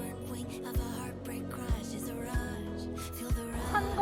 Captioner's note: kyahaha